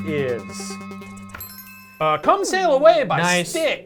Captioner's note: suspenseful music; chimes dinging